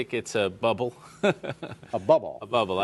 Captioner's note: laughter